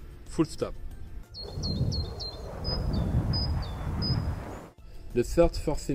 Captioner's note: birds singing; plane whooshing